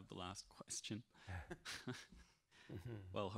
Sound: laughing

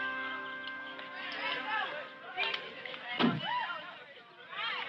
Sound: children chattering

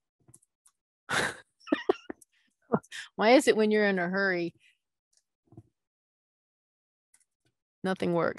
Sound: laughing

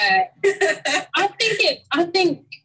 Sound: laughing

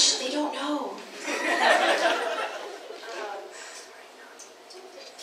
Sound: audience laughs

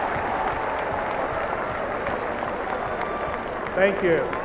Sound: cheers and applause

